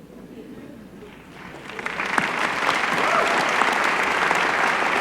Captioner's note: applause